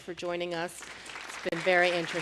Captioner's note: applause